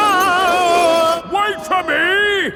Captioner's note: yelling